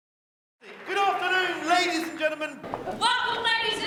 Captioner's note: male Voice